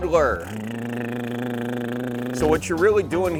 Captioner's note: fake engine sound